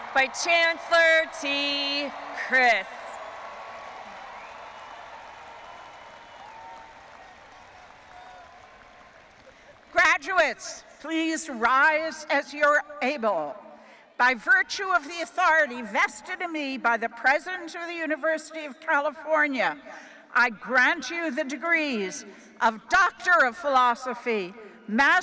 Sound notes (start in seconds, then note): 3.5 audience applauding and cheering